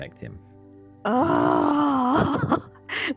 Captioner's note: laughing